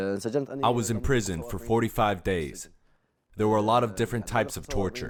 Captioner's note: through translator